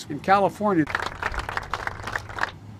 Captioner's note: applause as Joe cautiously tries not to trip on these steps